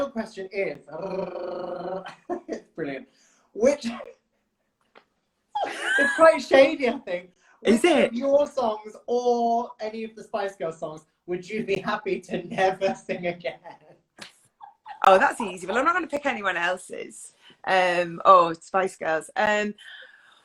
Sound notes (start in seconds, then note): 0.9 rolls his tongue; 1.0 laughs; 5.5 laughs; 15.2 laughs